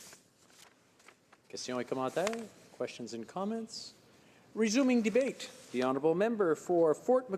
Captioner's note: speaking French